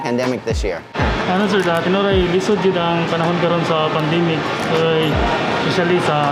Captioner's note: employee speaks foreign language